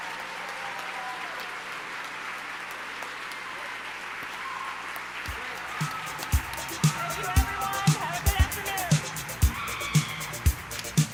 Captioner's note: cheers and applause